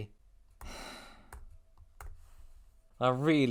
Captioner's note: browser tabs closing; deep sigh